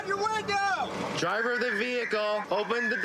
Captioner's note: using loudspeaker